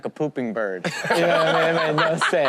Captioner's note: all laugh